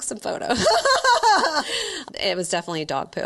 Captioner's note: laughing